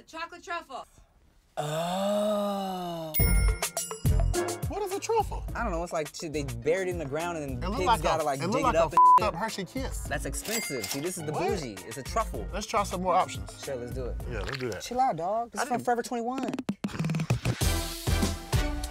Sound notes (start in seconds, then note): 3.1 bell dings; 8.9 beep; 17.0 pop music